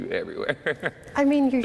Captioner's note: laughter